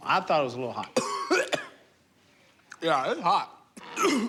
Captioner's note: coughs